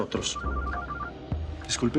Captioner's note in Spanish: suena el celular